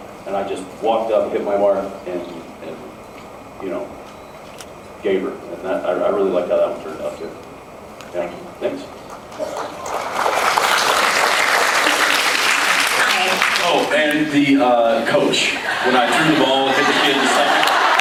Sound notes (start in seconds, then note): 9.0 applauds; 15.3 laughs; 15.9 cheers, applauds